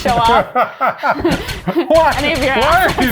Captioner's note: laughs